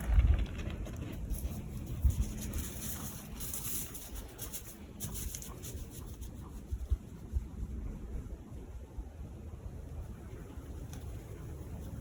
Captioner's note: deer running through brush